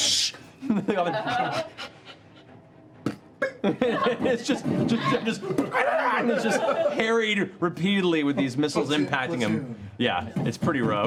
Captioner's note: panting; poofing